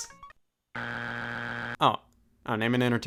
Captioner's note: buzzer beeps